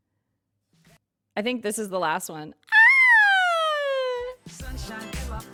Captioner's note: squeals